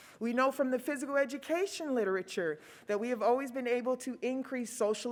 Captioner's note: none